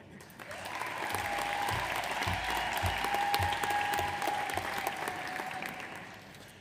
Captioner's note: audience applauds; audience cheers